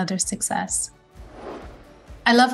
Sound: screen whooshing

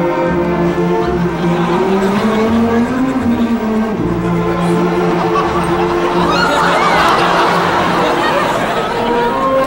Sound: audience laughing

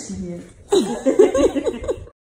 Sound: laughs

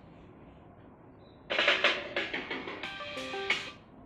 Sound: phone Ringtone

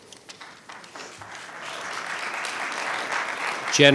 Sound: clapping

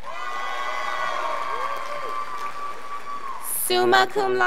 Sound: scholars applauding

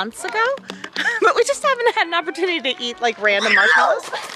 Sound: laughs

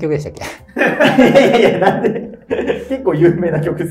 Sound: laughing

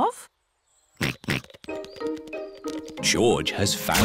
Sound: snorts

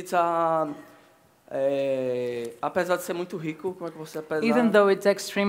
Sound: speaking Portuguese

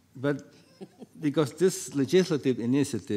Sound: panelist chuckles

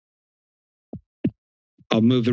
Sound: mic thumps

